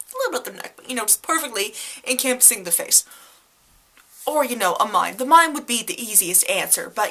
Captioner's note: none